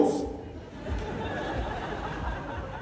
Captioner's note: laughter